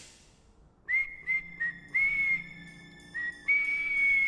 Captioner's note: whistles